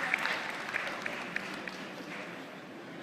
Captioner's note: applause